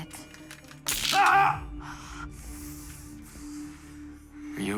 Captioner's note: electric crackle